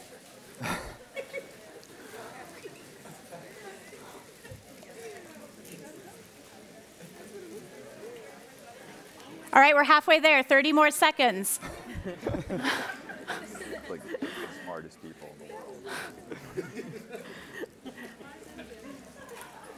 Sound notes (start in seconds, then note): 11.6 laughing; 17.3 laughing